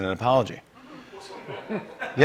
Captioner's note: laughter